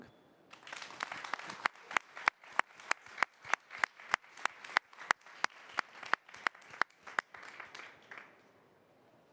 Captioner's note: applause